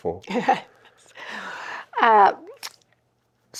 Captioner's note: chuckles